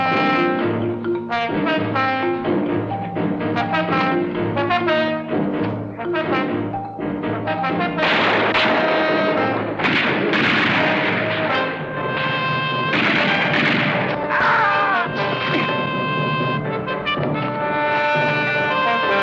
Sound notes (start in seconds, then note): 0.0 suspenseful music; 8.3 gunfire continues; 14.3 screaming